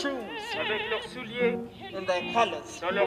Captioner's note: translator speaks in foreign language